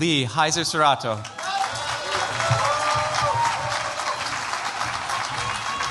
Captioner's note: cheers, applause